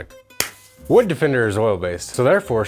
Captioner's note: hands clap